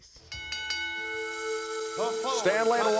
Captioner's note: bell rings